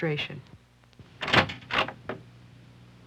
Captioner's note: door opening